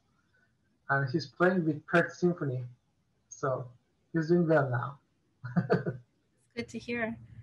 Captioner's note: chuckles